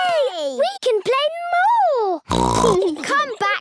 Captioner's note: snorts